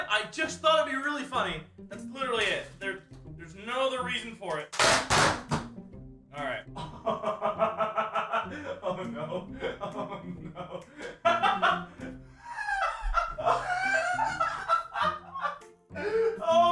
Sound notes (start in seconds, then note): 4.7 sounds of ripping tape and cardboard; 6.7 laughter; 12.4 still laughing; 12.5 laughing continues